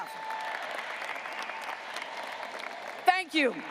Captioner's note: graduates applauding